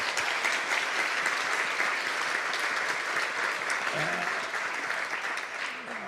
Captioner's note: applause